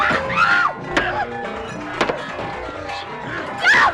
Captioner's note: repeated thuds